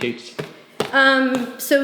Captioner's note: stomps